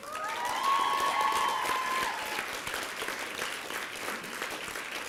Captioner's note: applause and cheering